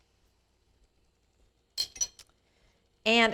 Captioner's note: tablespoon clanking